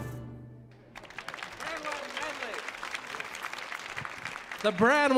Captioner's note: audience applauding